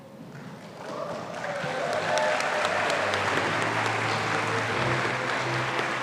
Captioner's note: audience applauding and cheering